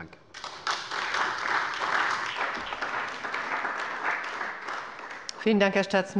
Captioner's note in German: Beifall bei der CDU und dem BÜNDNIS 90/DIE GRÜNEN